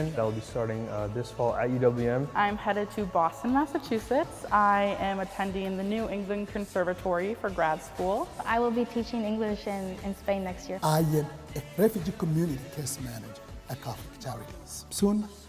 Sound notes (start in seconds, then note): none